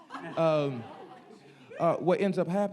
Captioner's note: audience laughing